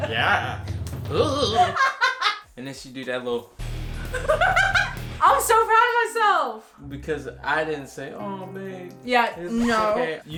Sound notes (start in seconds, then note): 1.2 laughing; 4.0 laughing